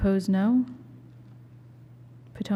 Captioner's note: silence